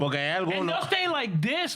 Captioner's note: speaking In Spanish